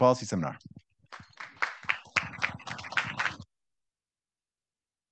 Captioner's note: audience applauding